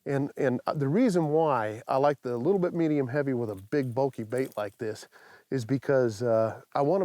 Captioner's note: none